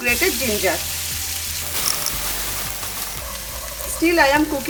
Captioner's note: pan sizzling